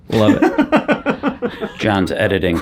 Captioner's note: John laughs